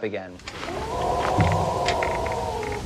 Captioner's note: howling